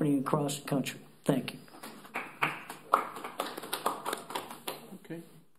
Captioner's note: applause